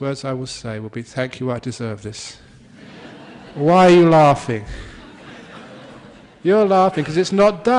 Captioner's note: laughter